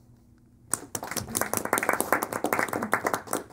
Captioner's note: applause